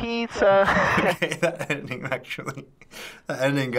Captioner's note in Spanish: ríe